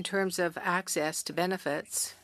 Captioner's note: speaking French